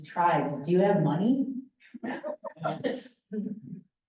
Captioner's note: laughter